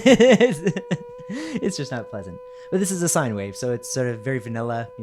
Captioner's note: laughs; tone playing